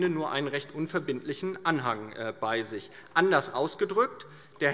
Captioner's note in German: none